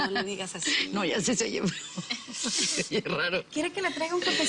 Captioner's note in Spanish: Risas